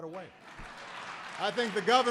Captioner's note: applause